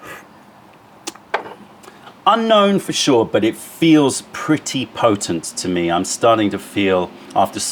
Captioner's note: sips tea